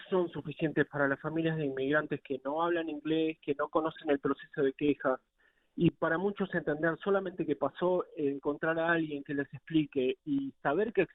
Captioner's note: speaking in spanish